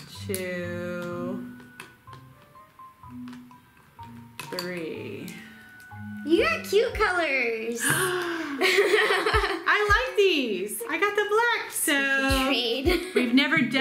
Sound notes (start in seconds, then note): 7.8 giggles; 7.8 gasps